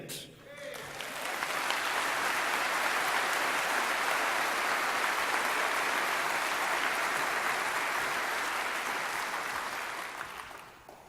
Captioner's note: applause